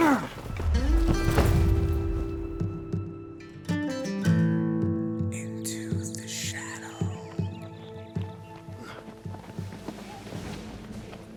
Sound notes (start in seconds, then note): 0.0 soldier grunts; 0.1 gentle music; 5.5 faint Voice